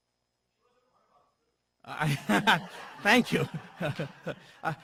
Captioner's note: laugh